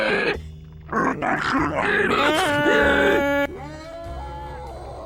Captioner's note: Mr Friendly growls; Mr Friendly growls some more as Scratch Cat screams; Scratch Cat and Mr Friendly scream out of frame